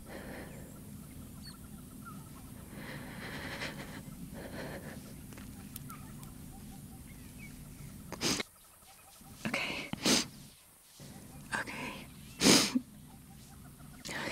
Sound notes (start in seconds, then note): 8.1 Sniffles; 12.3 Sniffles